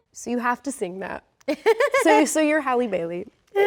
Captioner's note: laughs